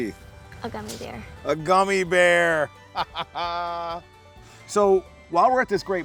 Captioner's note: laughs